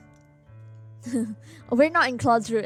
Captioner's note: laughs